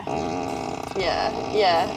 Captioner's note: long farting sound